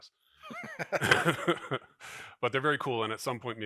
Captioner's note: laughs